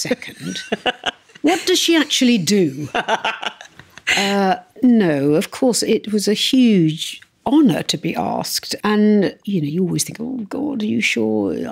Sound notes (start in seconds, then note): 2.6 laughs